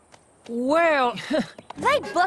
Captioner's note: chuckles